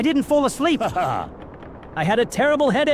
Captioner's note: laughter